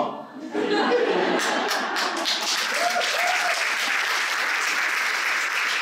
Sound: applause

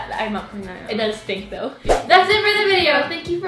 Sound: slide swooshing

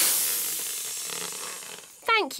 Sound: air hissing

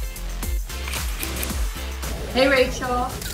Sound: scissors clicking

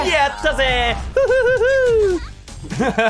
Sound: quality laughter

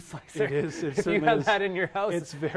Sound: laughs

